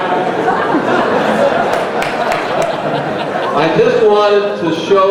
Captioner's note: crowd laughing